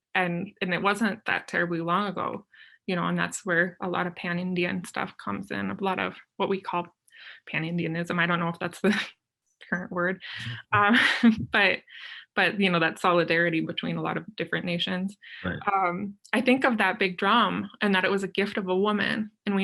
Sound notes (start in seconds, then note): 10.4 chuckles